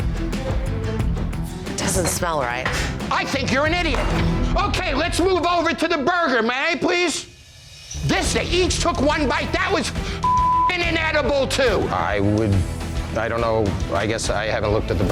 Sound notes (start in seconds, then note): 0.0 suspenseful music; 3.7 plate banging; 10.2 beep